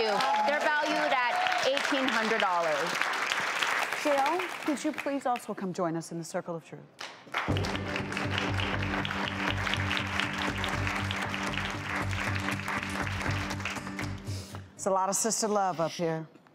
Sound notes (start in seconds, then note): 7.0 audience claps; 7.5 techno music